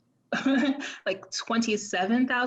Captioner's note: laughs